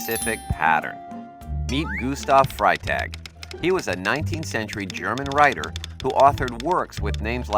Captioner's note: Freytag typing